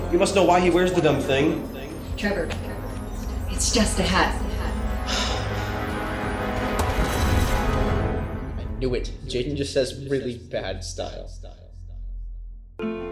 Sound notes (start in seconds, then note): 5.1 Trevor exhaling